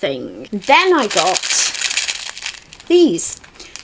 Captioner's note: sound of plastic buttons rattling